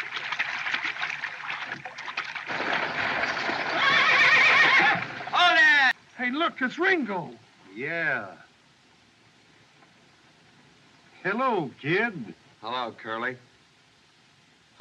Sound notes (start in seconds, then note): 2.5 horses Whinnying